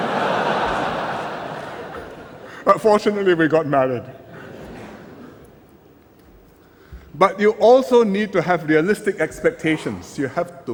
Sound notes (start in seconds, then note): 0.0 laughter; 6.1 laughter